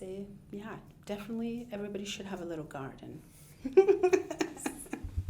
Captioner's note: laughing